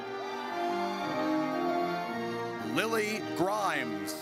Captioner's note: audience cheers